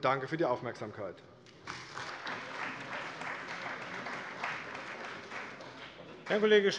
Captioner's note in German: Beifall bei der CDU und BÜNDNIS 90/DIE GRÜNEN